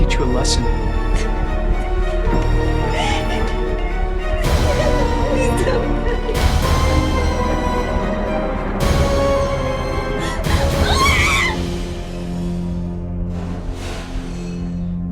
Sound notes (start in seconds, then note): 2.8 sobbing; 7.0 suspenseful music; 10.7 screaming